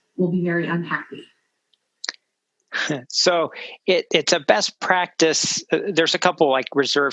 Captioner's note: laugh